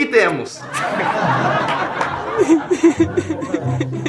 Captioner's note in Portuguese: risadas